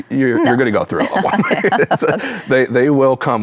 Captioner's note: chuckles; laughs